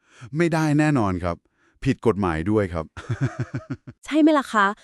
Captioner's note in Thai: เสียงหัวเราะ